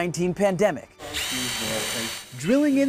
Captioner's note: drill drilling